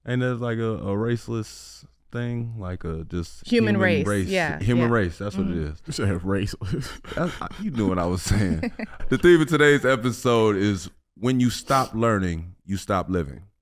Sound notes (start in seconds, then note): 5.8 laughing; 6.7 Amber chuckles